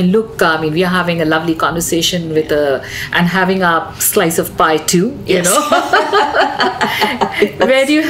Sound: both laugh

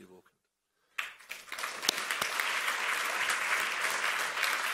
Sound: applause

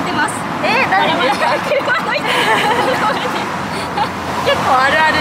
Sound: laughs

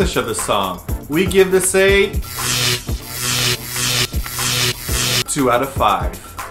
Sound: electricity charging

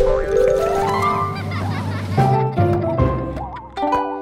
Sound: giggling

